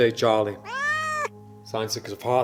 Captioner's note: cat meowing